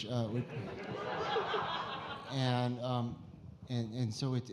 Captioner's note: audience laughing